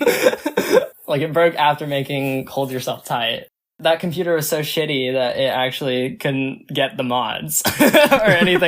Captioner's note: both laugh; both laugh